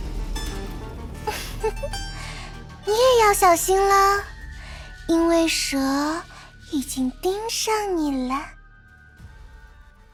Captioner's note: giggles